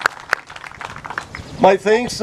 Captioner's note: clapping